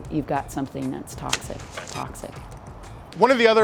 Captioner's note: scratch sound